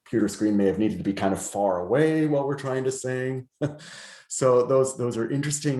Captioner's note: laughs